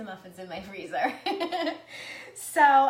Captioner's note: laughs